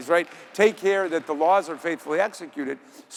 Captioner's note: audience applauding